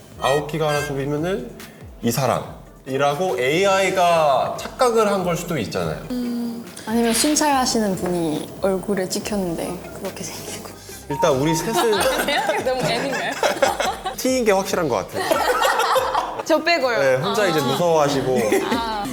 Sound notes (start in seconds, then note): 15.1 laughs intensely